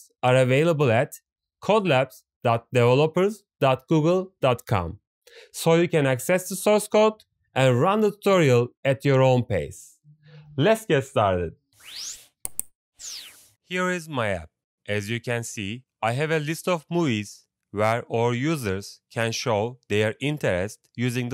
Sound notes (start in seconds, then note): 12.4 click; 13.0 swish